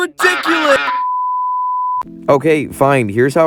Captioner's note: ducks quacking; beep